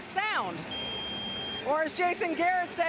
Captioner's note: ringing